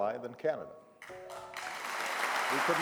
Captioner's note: cheering and applause